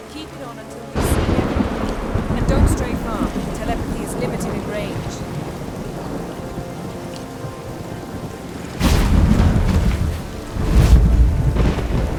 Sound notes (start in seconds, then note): 8.8 portal rumbles